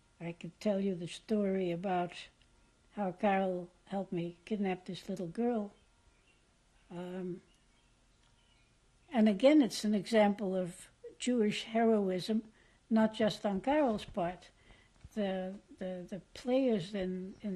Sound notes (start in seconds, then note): 5.7 pauses for 3 seconds